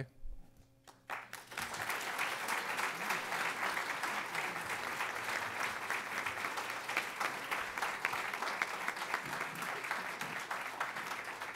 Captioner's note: applause